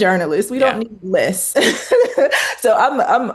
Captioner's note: laughs